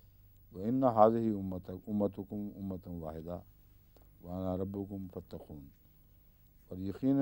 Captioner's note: Arabic